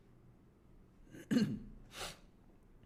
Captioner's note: cough